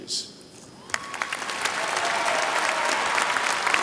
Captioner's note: applause